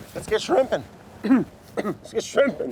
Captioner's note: coughs